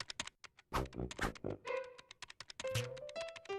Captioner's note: keyboard clacking